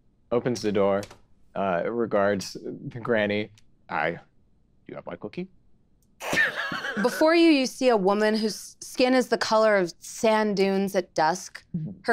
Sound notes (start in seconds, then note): 6.2 Erika snickering